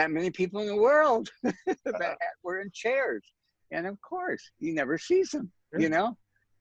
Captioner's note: laughs